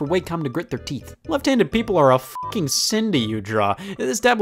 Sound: beep

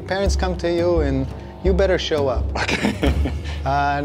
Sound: laughing

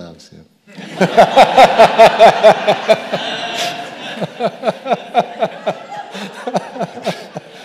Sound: audience laughing

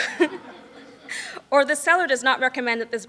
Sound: laughing

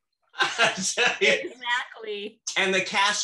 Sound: laughs

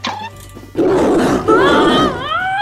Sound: growling noises

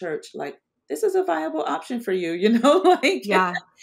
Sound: laughs

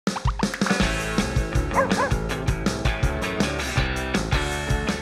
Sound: upbeat music; barking

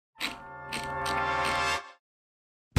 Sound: wheel clicks

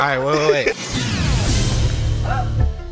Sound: laugh

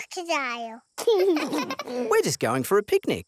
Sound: both laugh

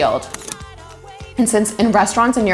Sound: camera clicking

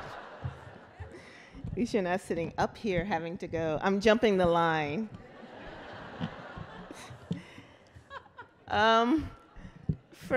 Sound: laughter

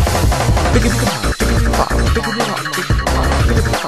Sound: chicken beatboxing

